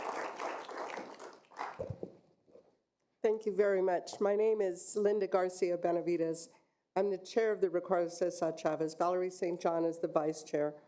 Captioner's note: applause